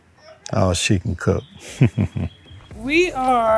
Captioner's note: laughs